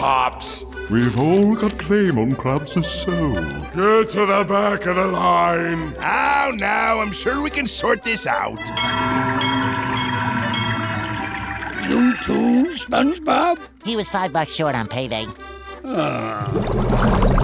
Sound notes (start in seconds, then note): 8.6 bell dinging; 15.8 groaning